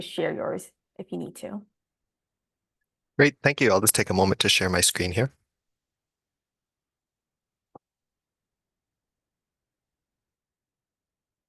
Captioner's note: silence